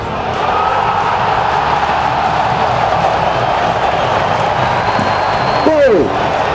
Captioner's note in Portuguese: sons da torcida; gritos de gol; torcida comemorando